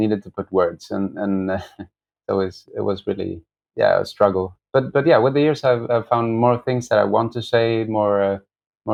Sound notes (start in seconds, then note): 1.0 laughter